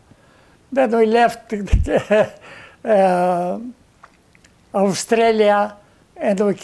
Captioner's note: laughing